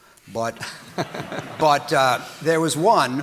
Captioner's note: audience laughing